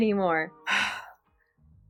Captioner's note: sigh